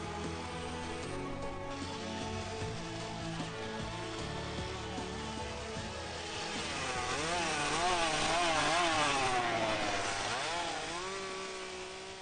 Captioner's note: chainsaw